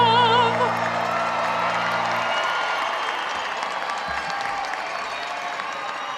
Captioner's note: audience cheering and applauding